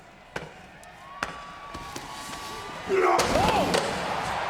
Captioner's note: audience cheers